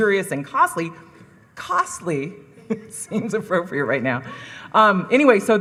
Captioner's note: laughs